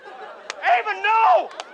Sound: slap

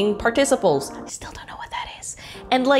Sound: whispers

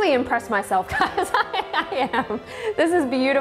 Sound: laughing

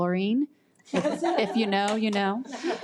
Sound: audience laughs

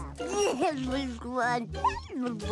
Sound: babbles

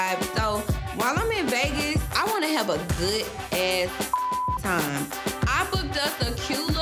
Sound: beep

